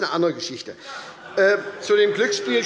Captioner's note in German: Heiterkeit und Beifall bei der SPD